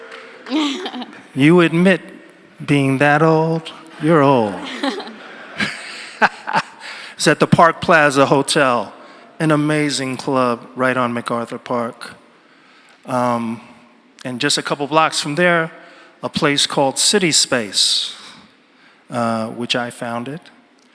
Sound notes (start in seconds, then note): 0.0 audience member applauds; 5.7 audience laughs